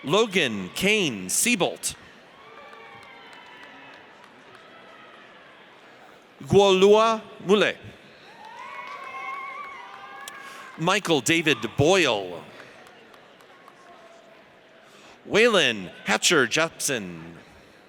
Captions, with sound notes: Logan Kane Seabolt. (audience cheers) Golois Mouelet. (audience cheers) Michael David Boyle. (audience applauds) Waylon Hatcher Jepsen.